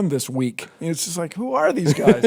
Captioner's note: laughter